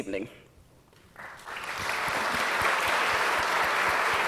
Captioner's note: audience applause